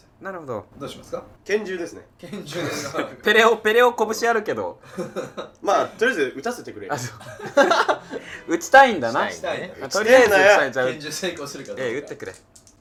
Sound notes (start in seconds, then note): 4.8 laughing; 6.9 laughing